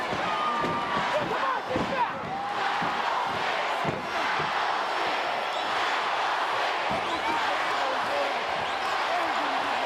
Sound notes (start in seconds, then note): 3.0 crowd chattering